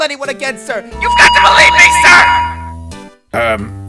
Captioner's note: megaphone blaring